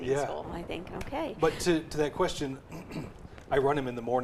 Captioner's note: clears throat